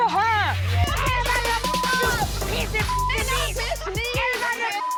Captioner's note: intense hip-hop music; people shouting indistinct